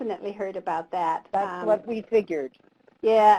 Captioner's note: voiceover